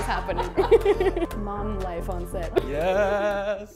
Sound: laughs

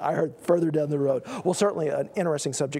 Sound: laugh

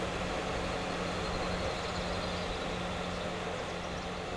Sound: birds chirping

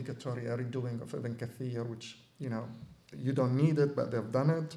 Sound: non-english

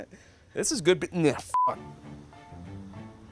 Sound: beeping

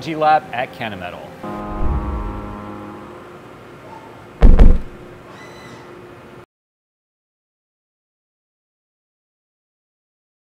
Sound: machining Noises

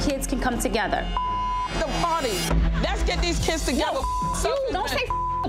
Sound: beep

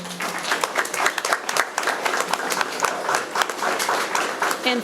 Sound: all clapping

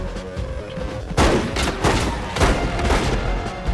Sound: gunshots

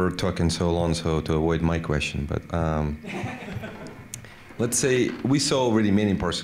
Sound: laughter

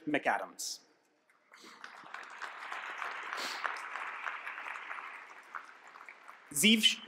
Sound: applause

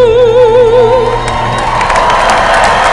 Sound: applause

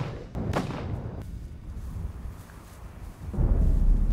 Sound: gunshot

